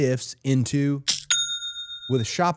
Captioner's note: cashier dinging